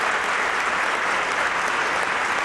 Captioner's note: applause